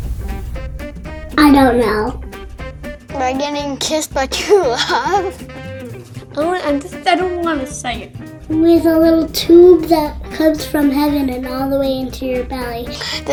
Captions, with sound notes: - I don't know. - By getting kissed by true love. (laughs) - (stammers) I just don't, I don't wanna say it. - With a little tube that comes from heaven and all the way into your belly.